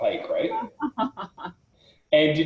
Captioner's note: laughs